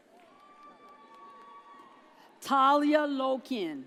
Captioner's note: audience cheers